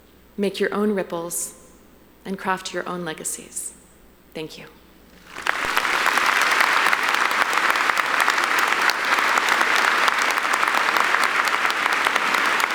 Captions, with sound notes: make your own ripples, and craft your own legacies. Thank you. (audience applauding)